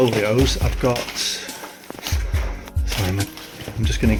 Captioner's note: papers rustle